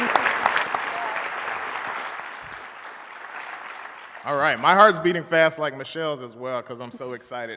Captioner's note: applause